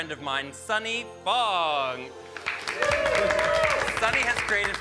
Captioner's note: all cheering and clapping